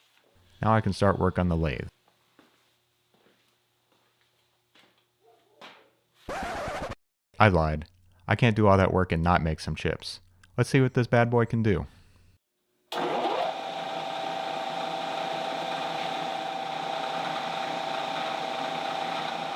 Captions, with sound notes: Now I can start work on the lathe. (record scratches) I lied. I can't do all that work and not make some chips. Let's see what this bad boy can do. (machine whirs)